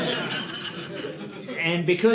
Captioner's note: audience laughing